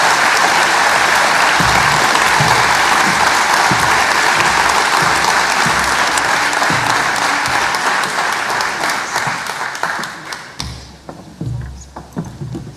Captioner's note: applause